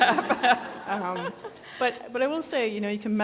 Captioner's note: people laughing